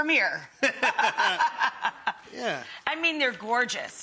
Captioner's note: Buddy and Rachael laughing